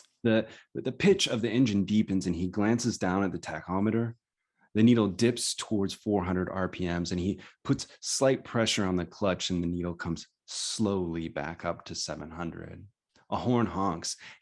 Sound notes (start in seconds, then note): none